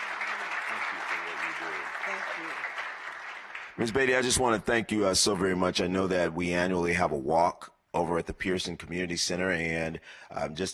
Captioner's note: applause